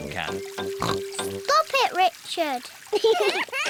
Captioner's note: oinks; both laugh